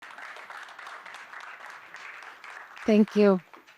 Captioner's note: people clapping